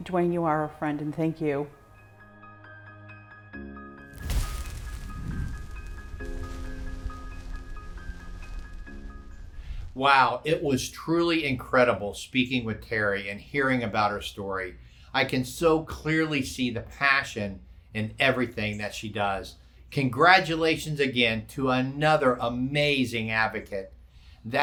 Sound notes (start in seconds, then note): 2.7 inspirational music; 4.0 fire crackling